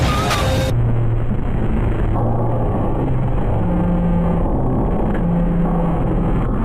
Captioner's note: eerie electronic music; static crackling; soft eerie music